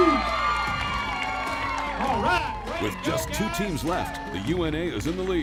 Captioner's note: cheering